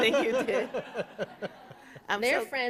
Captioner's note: laughter